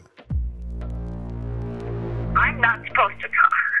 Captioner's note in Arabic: مركب الغدر sfx